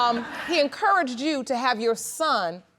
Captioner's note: all laughing